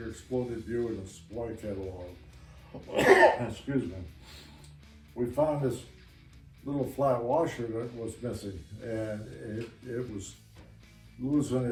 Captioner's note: cough